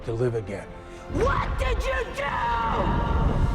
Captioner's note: shouts